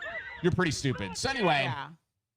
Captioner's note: people screaming